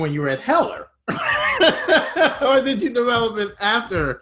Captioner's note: laughs